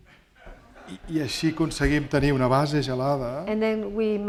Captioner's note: speaking spanish